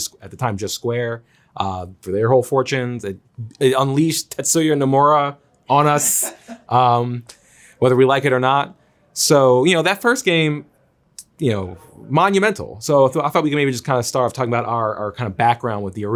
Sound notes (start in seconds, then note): 5.8 Zack laughs